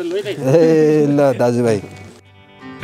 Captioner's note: laughter